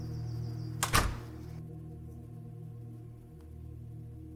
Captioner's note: door slams